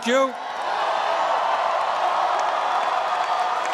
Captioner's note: cheering and applause